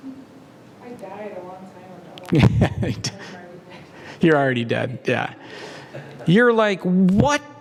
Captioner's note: laugh